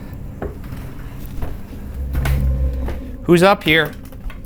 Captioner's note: footsteps continue ascending